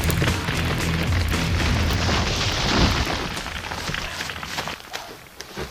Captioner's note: fire raging; trees falling; fire